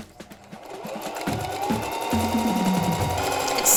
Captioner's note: sewing machine whirring; drum beats